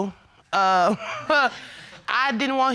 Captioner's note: scoffs